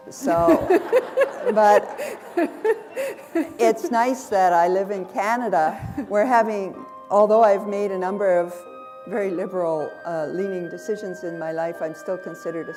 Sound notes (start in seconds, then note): 0.2 laughter